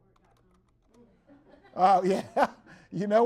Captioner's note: everyone laughs